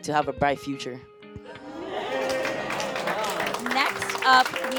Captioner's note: audience cheering